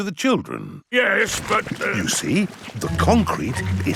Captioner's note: stutters